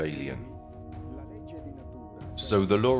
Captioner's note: speaking in foreign language